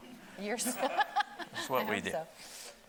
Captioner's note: laughs